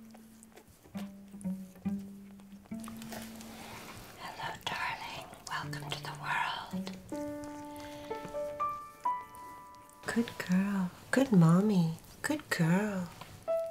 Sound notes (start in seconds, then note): 4.0 whispering; 9.9 whispering